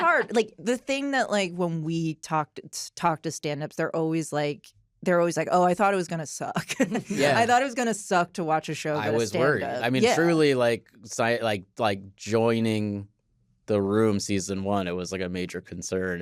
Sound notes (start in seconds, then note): 6.7 chuckles